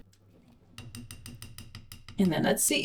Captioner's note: tapping spatula against side of blender